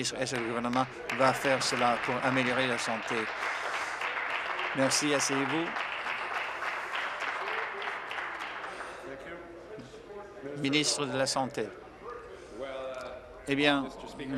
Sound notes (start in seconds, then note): 6.2 applause